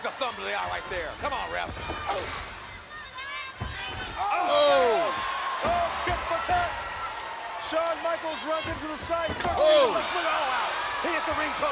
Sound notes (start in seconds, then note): 4.2 commentators exclaim